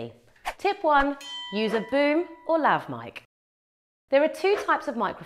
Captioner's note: bell rings